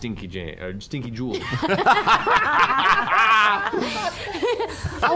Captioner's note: laughter